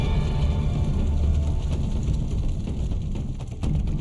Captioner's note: intense music; flames crackling